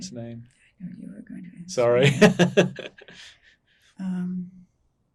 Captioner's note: laughing